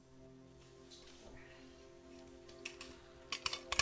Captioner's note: tense music; metallic rattling